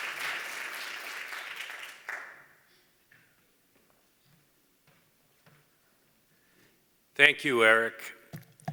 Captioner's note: applause